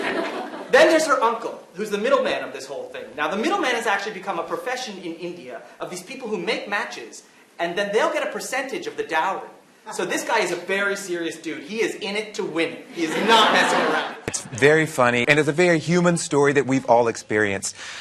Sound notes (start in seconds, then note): 12.9 audience laughter